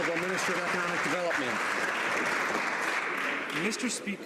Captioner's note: some Applause